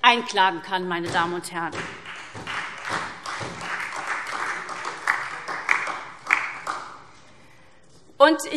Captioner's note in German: Beifall SPD und vereinzelt DIE LINKE